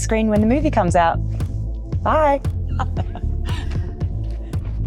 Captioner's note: upbeat music; laughs